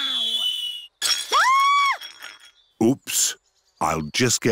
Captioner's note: clattering and shrieking